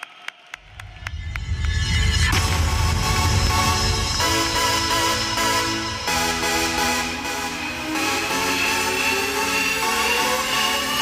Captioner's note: cheers and applause